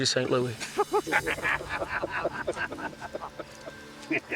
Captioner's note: men chuckling